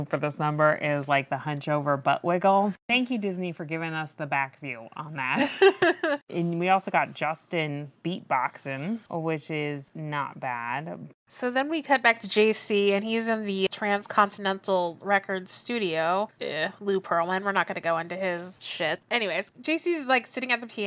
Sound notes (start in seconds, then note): 6.3 laughs